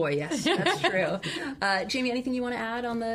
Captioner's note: laughs